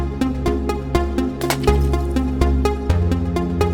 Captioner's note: bottle shatters; pensive synth music continues